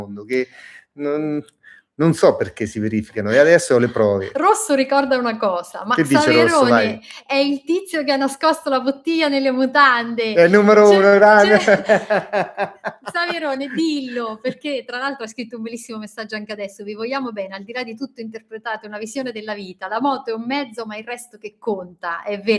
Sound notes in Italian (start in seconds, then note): 11.2 risate